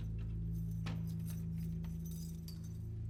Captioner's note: thumps